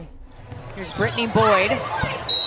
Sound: whistle

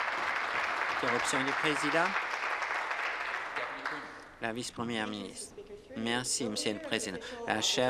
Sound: applause

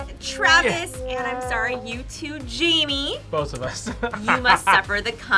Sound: laughs

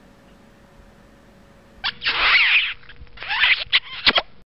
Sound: loud kissing sound

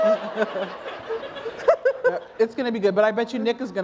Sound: laughter

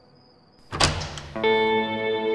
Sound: door opening

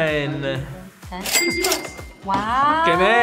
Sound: cash register dings

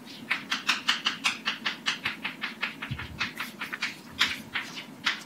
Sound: chalk writing on chalkboard

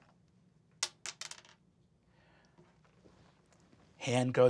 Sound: dice clacks

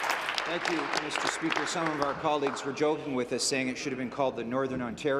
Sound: applause

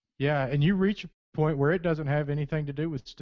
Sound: voiceover

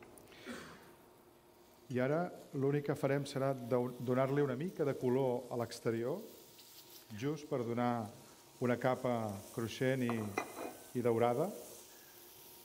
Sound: speaking catalan

